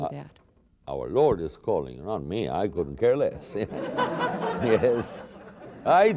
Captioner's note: laughter